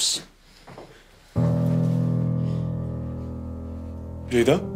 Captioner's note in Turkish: Nefes sesi